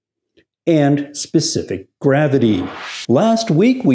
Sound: air whooshing

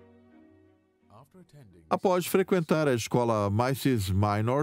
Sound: voiceover

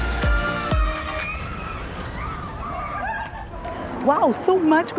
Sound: screaming

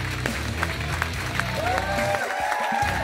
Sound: audience cheering

